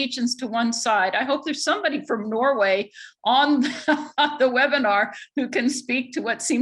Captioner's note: laughs